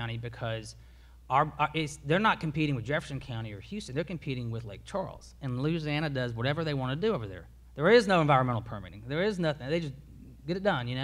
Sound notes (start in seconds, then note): none